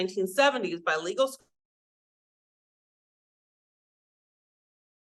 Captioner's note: audio cuts out